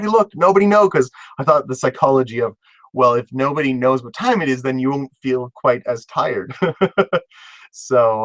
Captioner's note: laugh